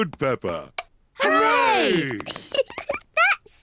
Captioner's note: giggles